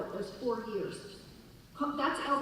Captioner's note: none